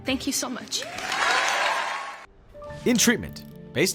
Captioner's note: audience cheering and applauding